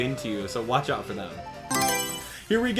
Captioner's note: Mario Selection Sound